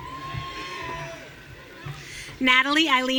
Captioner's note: audience cheering